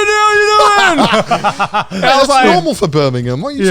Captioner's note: both laughing